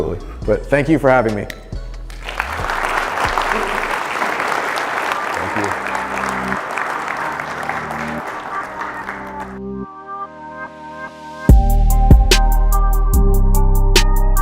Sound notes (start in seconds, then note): 2.0 applause; 8.5 hip-hop beats